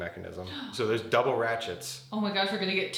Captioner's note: partner gasping